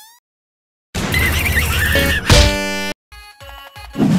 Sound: Wrecking Ball screaming and got eliminated

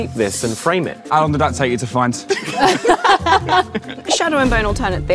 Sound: group laughs

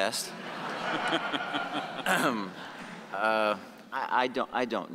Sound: audience laughing

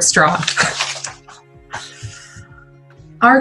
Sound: laughter

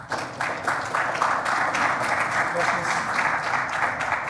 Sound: audience clapping

